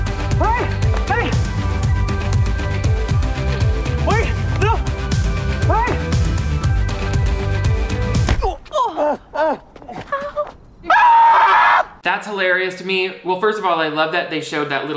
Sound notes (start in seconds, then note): 8.3 grunting; 11.1 yells